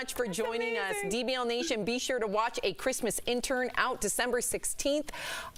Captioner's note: laughter